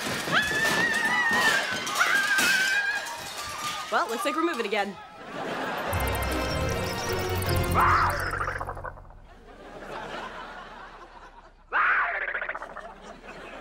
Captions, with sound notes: [screaming] Well, looks like we're moving again. [growling] [growling]